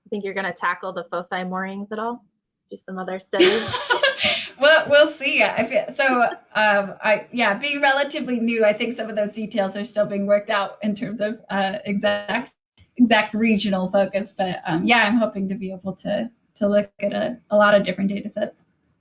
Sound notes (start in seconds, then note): 3.4 both laugh